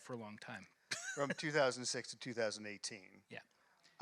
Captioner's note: laughs